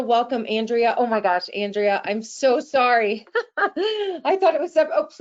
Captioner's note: laughing